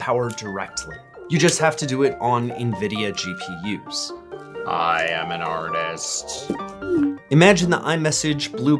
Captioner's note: robot voice for no reason